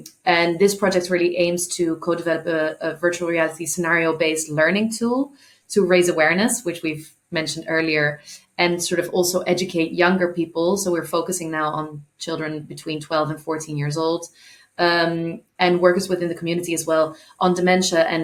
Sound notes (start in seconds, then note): none